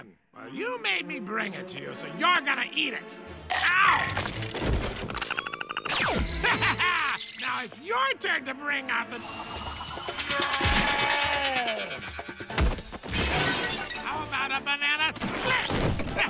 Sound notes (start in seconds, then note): 3.3 chomp; 4.8 Perry chatters aggressively